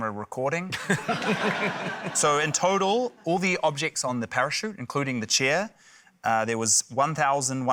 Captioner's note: laughter